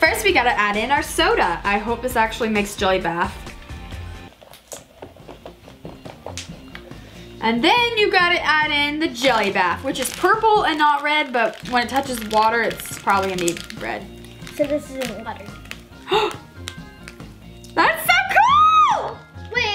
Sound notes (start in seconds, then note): 3.6 liquid pours; 13.9 plastic crinkles; 16.0 gasps